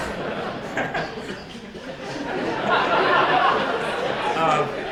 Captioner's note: laughs; audience laughs